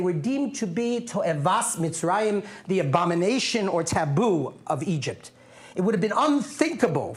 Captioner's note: non-english speech